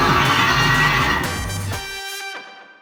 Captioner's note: Sŵn rhuo